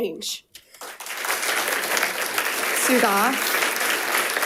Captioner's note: audience applauding